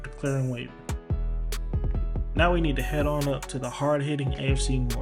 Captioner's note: voiceover